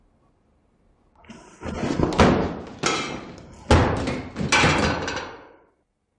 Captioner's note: banging